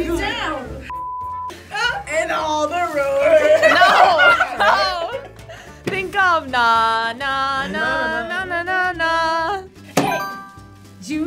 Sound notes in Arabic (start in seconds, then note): 1.0 صافرة; 3.4 كلاهما يضحك; 10.0 قرع الجرس